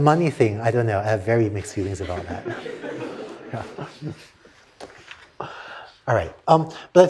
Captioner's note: laughter